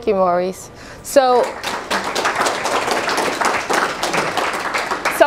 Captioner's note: applause